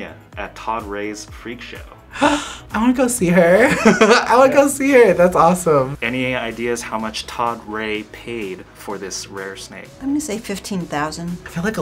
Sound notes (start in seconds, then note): 2.1 gasps; 3.5 laughs